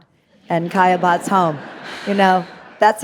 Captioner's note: audience laughing